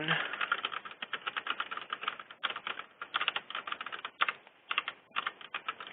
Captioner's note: keyboard clicking